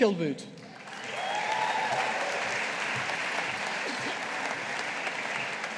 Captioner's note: audience applauding